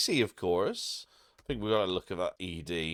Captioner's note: blank Audio